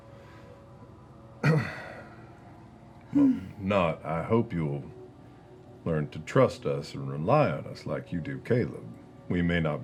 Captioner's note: clears throat